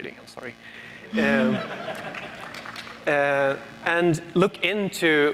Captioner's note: audience laughs and applauds